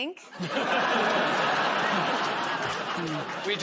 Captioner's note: laughter